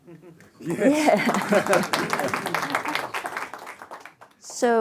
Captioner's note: audience applauding